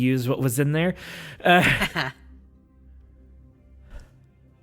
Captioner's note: chuckles